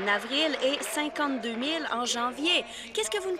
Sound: applause

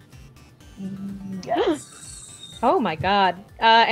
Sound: gasps

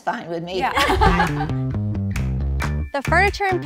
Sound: upbeat music; all laughing

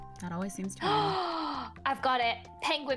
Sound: gasp

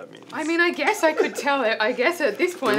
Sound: laughs

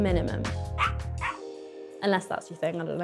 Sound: puppy barking

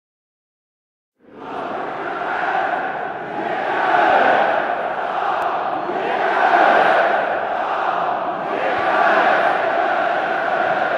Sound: sound of crowd shouting

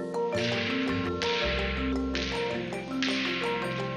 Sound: sword slashing; bright epic music

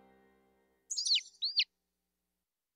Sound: chirping

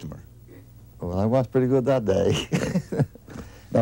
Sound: chuckling

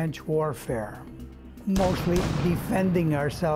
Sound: gunshots firing

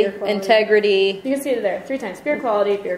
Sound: voiceover

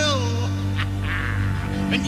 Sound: jafar laughs

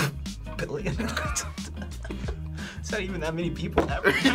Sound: chuckles

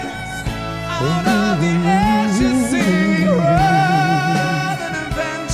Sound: hums along

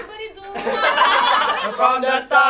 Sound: laughter

